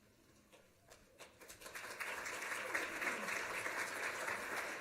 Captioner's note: applause